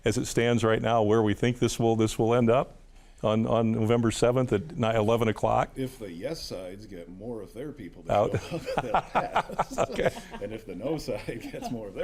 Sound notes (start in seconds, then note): 8.1 all laughing